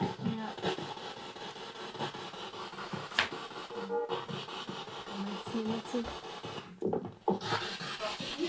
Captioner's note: noise of the spiritbox in the background